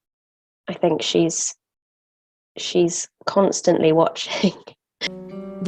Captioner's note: chuckles